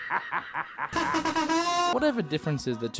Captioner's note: ha hahahaha